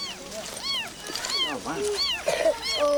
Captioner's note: mewing